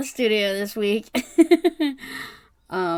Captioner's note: laughs